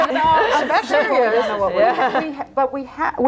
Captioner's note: all laughing